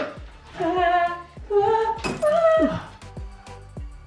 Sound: moaning loudly

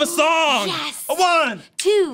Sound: gasps

